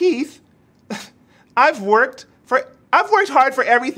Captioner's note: chuckles